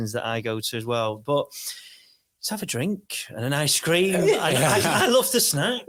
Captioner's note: laughing; audience laughs